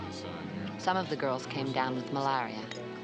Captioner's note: Maggie Voiceover